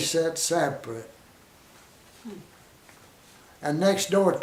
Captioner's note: silence